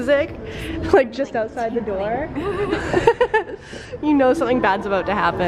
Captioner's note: laughs loudly